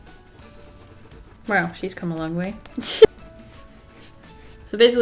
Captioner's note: laughs